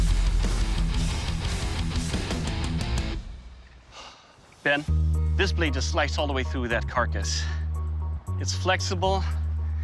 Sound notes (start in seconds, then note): 3.8 exhales